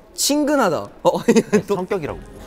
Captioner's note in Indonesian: Ohohoho